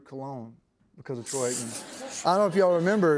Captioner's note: laughter